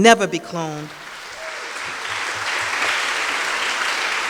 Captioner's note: audience claps